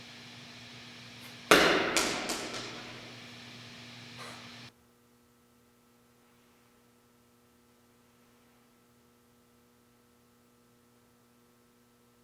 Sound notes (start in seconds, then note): 1.2 ball thudding